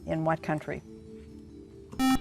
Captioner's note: buzzer